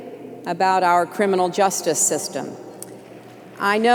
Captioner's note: applause